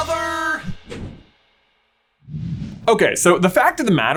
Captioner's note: graphic whooshing